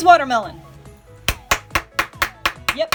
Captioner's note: clapping